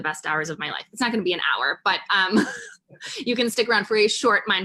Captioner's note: chuckles